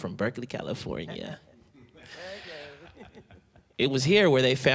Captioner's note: laughing softly